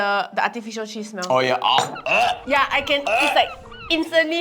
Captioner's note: gagging noises